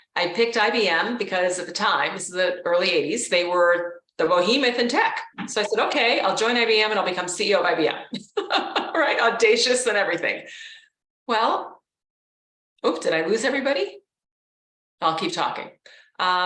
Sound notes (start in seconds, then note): 8.1 laughs